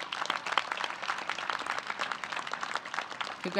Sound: applause

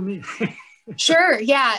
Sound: laughing

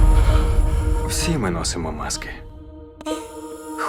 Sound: man, in Spanish

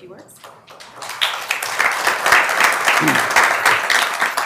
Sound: members applauding

